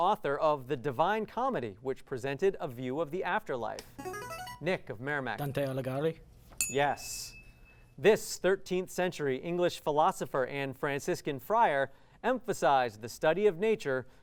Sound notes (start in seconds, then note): 3.7 ringing